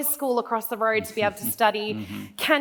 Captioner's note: laughs